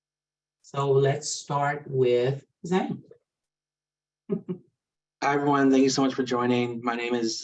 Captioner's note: chuckles